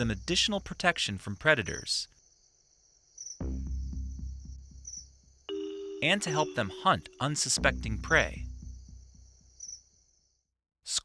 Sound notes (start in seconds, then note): 1.9 bird chirping; 1.9 light music; 8.3 bird chirping